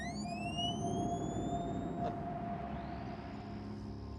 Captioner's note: high pitched ringing